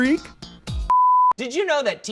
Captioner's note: electronic beeping